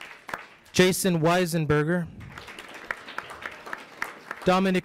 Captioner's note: audience applauds; audience applauds